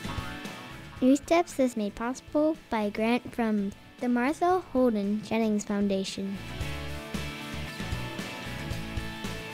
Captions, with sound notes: - [Child's voice] NewsDepth is made possible by grant from the Martha Holden Jennings foundation. (upbeat music)